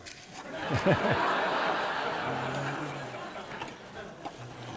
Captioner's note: laughter